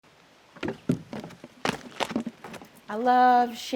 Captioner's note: footsteps